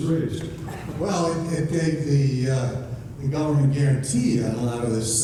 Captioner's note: voiceover